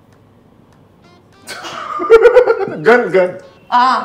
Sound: laughing

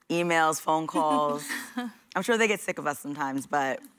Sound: laughter

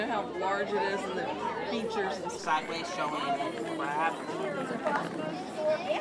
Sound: crowd noises

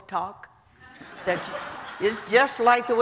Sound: audience laughing

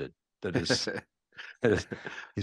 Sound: laughing

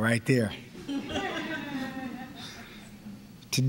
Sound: laughter

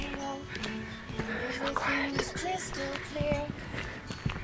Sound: whispers

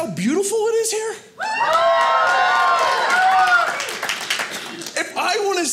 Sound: audience cheering

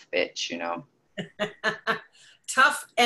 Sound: laughs

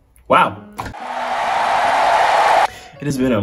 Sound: applause

